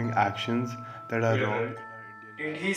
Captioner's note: voice fades